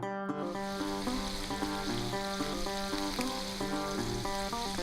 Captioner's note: sizzling frying pan